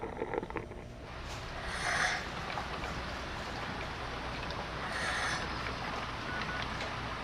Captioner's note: labored Breathing